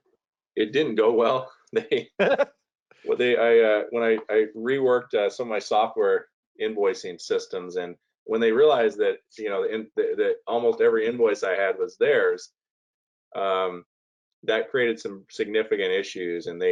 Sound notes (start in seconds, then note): 1.9 both laughing